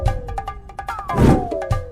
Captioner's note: whoosh of Suspension